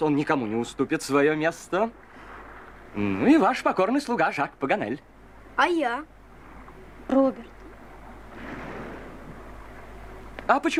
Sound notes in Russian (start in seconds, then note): none